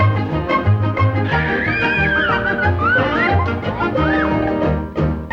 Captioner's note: riders scream